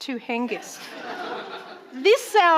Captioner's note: audience laughing